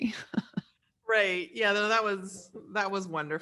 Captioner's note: laughing